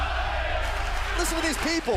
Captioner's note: fans chanting